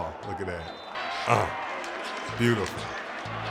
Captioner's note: grunts